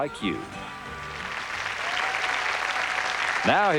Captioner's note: applause